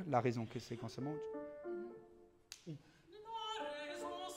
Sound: speaking in foreign language; singing in foreign language

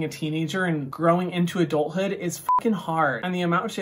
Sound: beep

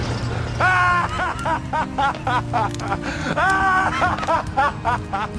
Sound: crazy laughter

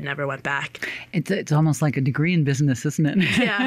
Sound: laughs

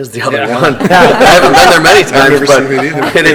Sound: people laughing

